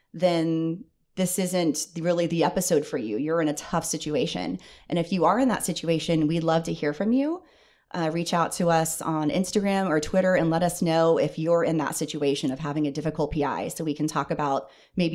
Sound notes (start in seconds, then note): none